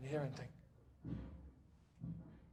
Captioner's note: a woman shouting